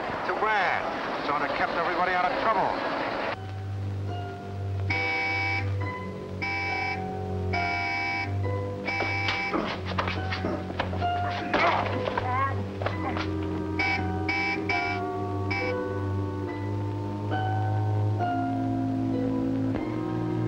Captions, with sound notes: - Too bad. Sorta kept everybody out of trouble. (slow ominous music) (car horn honking) (men groaning) (car horn honking) (slow ominous music)